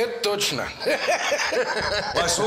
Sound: laughs

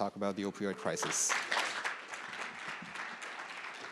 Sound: applause

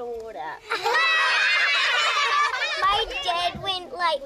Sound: laugh!

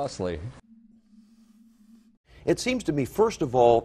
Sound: breathes heavily

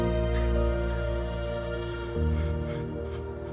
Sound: sobbing

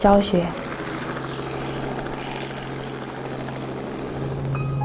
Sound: chopping sound of helicopter

